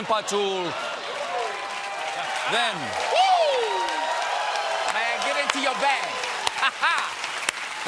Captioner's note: cheers and applause